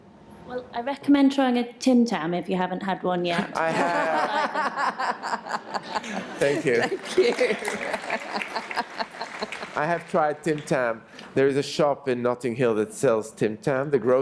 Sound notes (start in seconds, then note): 3.8 brief laughter; 6.4 applause